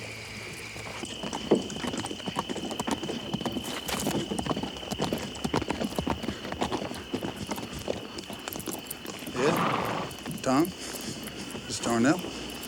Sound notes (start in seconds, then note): 1.3 crickets chirp; 1.3 hooves clop